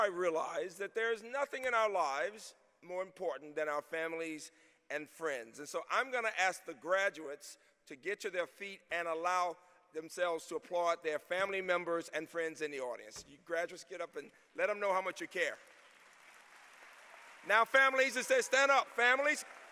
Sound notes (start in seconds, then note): 15.3 applause